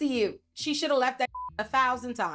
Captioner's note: beep